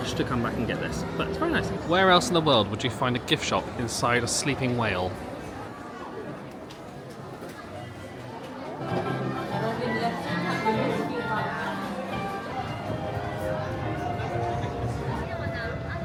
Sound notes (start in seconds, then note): 7.7 crowd murmuring; 13.2 light music